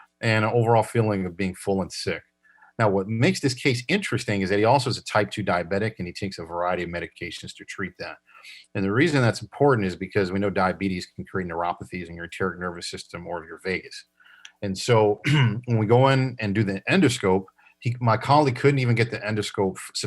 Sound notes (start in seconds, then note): 15.2 coughs